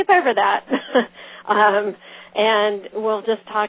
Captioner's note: laughs